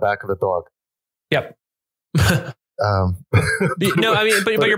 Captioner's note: laughs